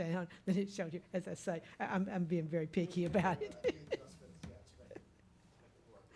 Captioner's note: laughs